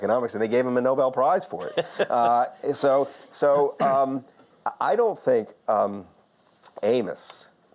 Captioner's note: Lord King laughs